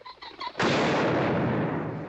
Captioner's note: gunshot